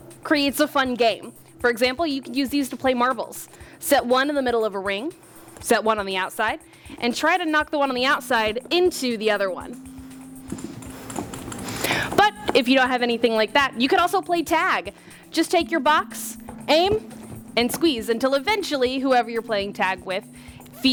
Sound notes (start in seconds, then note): 10.6 ping pong balls hitting floor